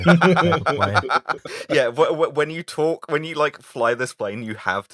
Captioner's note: laughter